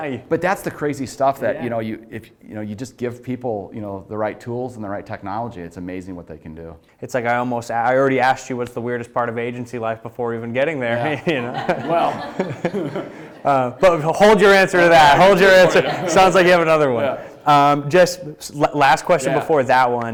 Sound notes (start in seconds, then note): 10.9 chuckling; 11.0 audience laughing